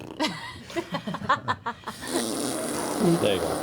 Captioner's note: blows raspberry